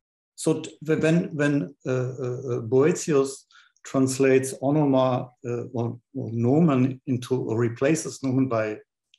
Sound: non-english

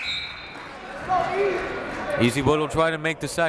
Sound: whistle

